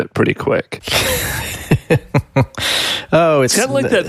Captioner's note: laughing